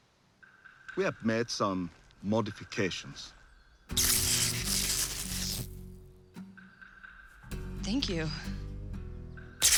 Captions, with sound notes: We have made some modifications. [electric zapping] Thank you. [zapping]